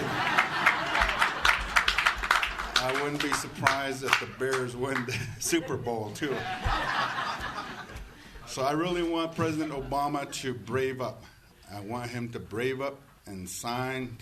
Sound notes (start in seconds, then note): 0.0 audience cheers and applauds; 6.5 audience laughs